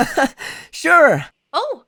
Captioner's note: laughs